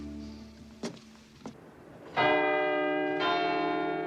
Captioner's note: bell chimes